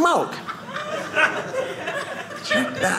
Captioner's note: audience laughing